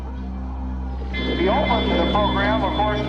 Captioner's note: airshow commentator chatter